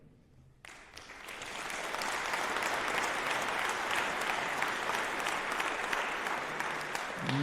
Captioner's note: applause